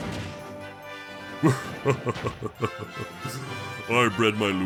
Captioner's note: laughs